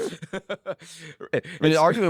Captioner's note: laughs